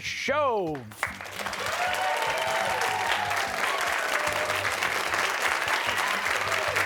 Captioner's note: cheers and applause